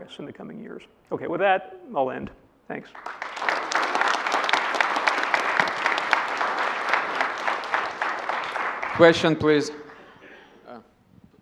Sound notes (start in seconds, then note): 2.9 applause